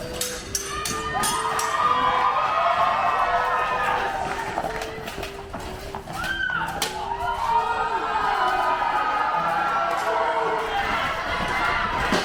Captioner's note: cheers